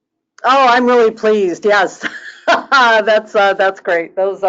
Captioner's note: laughing